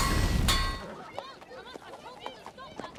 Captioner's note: children chattering